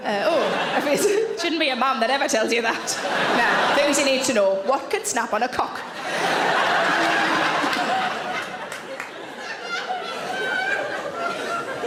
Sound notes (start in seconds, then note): 5.8 audience laughing